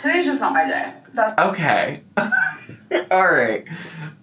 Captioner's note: laughs